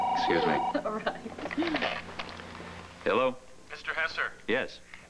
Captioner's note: telephone rings